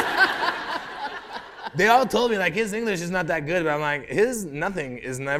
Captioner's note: laughter